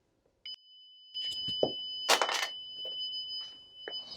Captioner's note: alarm beeping